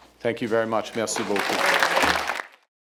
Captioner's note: applause